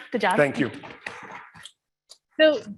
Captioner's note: audience applauds